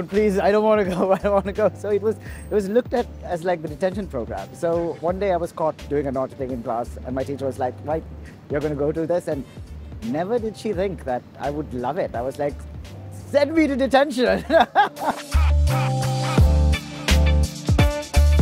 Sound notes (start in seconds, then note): 14.3 laughs